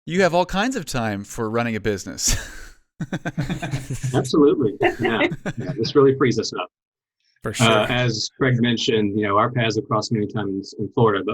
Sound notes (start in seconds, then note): 3.0 laughing; 6.0 speaking faintly